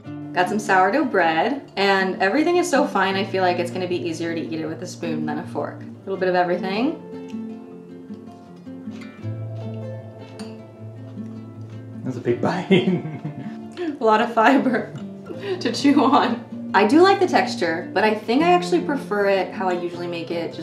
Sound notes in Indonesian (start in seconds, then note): 12.5 tertawa